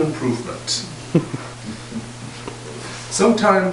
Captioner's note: audience chuckle